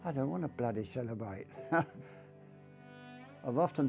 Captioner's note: laughs